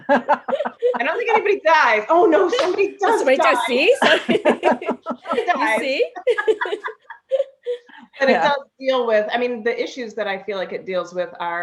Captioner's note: laughter from everyone